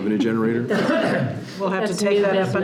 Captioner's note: participants laughing